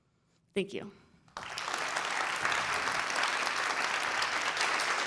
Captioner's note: applause